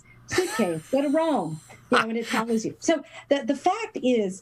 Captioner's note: laugh